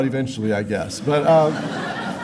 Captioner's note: laughter